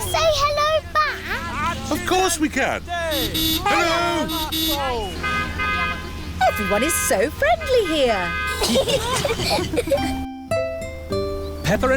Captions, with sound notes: -Can we say hello back? -Of course we can. (HONKING) Hello! -(ITALIANS HONK BACK) -Everyone is so friendly here. (ALL GIGGLING)